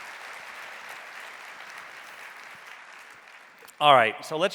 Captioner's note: audience applauding